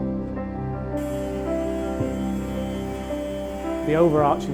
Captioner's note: tool buzzing